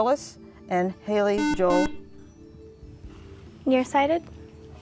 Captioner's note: buzzer